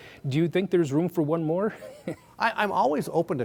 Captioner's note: chuckles